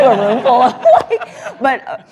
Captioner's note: laughter